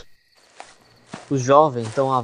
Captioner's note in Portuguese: sussuro; Passos na grama